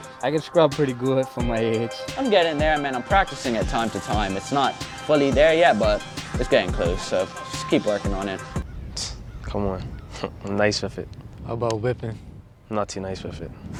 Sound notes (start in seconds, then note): 8.7 rap instrumental stops; 8.7 scoffs